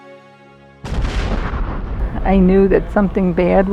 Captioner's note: explosion